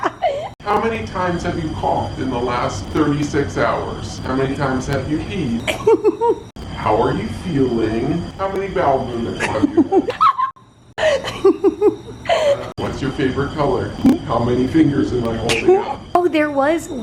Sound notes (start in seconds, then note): 11.0 laughing